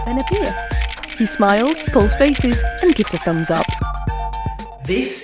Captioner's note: camera clicking